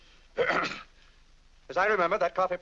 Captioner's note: clears throat